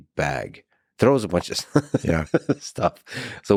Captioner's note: laughing